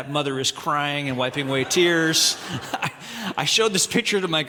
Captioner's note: audience laughing